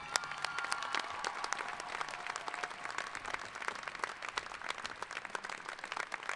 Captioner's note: cheering; applauding